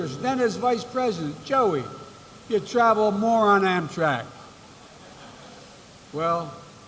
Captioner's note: laughter